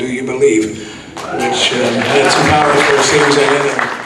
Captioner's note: audience clapping and cheering